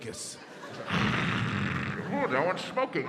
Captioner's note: imitates sun crackling